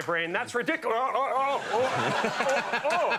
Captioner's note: Conan laughs; exclaims